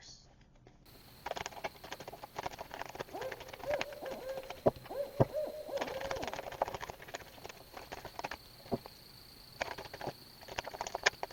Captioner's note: night tones and owl hoots